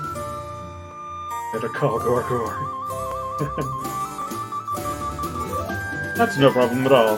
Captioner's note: chuckles